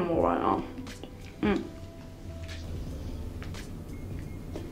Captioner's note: Camille grunts